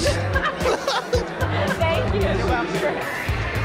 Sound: laughs

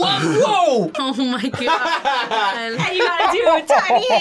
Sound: laughs

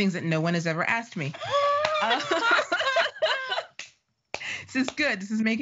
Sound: laughing

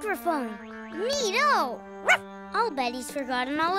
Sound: barking

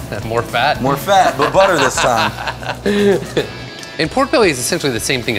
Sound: laughs

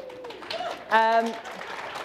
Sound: applause

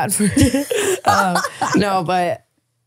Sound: laughing

